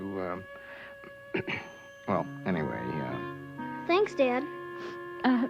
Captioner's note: clears throat